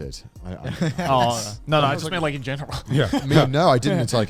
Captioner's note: chuckles